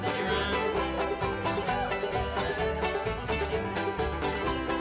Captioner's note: deep vibrating